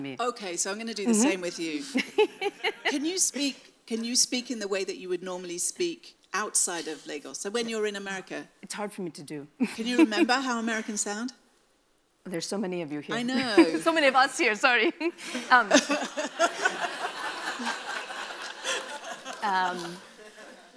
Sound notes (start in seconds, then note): 1.9 laughs; 9.4 laughs; 15.6 laughs; 15.6 audience laughs